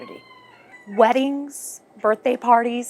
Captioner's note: rooster crows